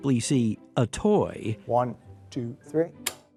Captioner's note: clicking